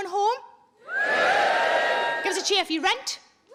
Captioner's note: scattered cheering